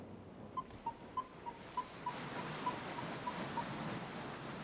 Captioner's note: tracker beeping